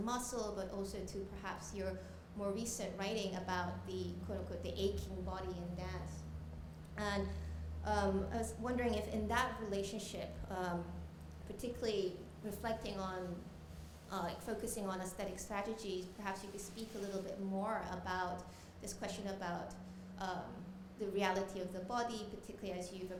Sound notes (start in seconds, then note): none